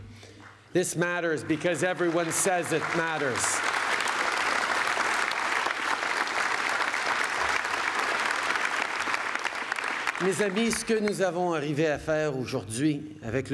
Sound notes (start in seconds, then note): 0.3 applause